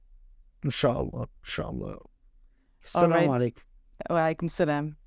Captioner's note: speaking in Arabic